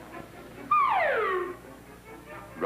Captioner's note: doofy slide whistle sound